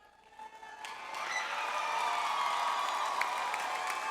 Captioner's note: audience applause